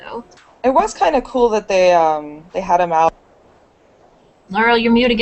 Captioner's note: mic mutes